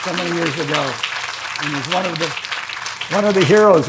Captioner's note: audience applauding